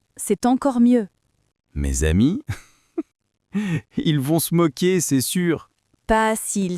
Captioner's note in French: rire